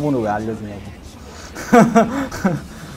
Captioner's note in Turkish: gülmek